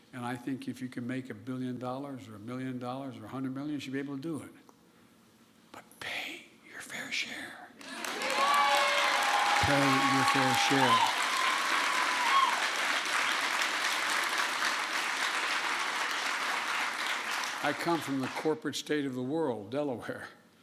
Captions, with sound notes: And I think if you can make a billion dollars or a million dollars or a hundred million, you should be able to do it. But pay your fair share. (Applause.) Pay your fair share. I come from the corporate state of the world, Delaware.